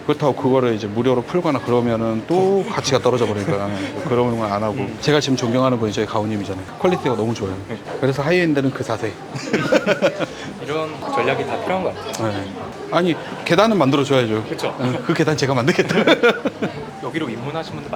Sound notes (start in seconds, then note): 14.7 laughs